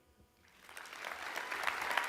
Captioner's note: applause